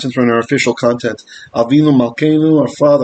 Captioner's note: Hebrew